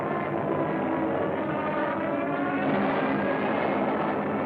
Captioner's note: sirens wailing